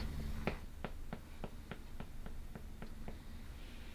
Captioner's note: foot tapping